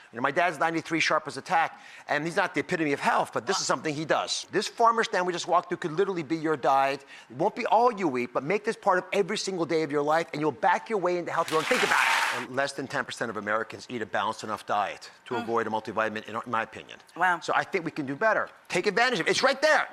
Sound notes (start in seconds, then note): 11.4 audience applause